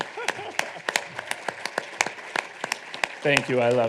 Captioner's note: audience applauding